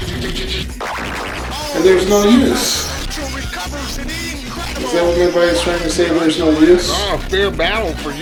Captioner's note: boing sound effect oh central recovers it incredible